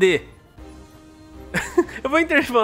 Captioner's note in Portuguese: risos